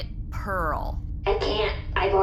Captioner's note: distorted voice